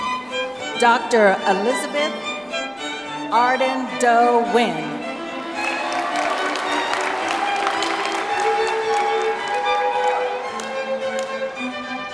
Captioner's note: applause